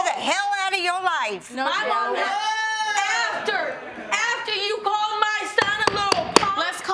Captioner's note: gavel pounding